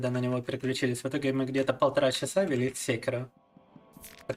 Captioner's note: speaking in Russian